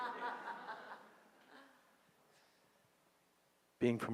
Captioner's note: audience laughing